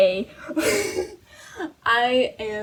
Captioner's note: laughs